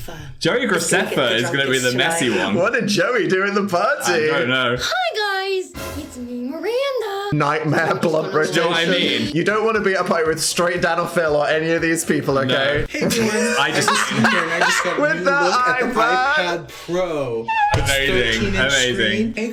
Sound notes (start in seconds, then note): 12.9 Dan laughs